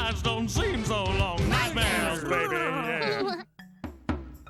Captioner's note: random gibberish noises